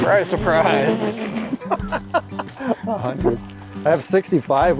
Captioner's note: laughs